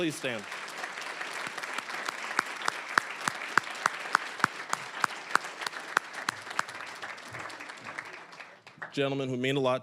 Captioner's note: applause